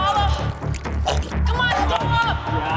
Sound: dramatic music; gagging

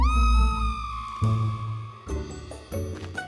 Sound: screaming

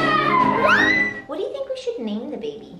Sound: screams

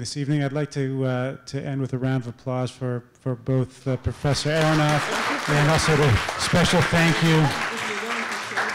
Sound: applause

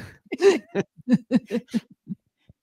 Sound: laughter

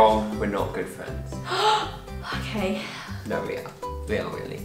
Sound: gasp

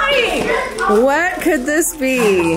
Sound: group chuckles and chatters

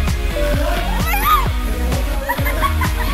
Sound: laughs

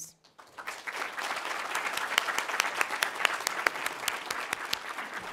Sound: applause

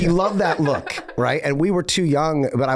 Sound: Meg laughing

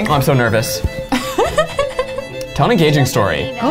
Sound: laughs

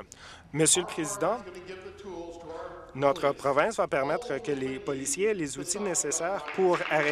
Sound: applause

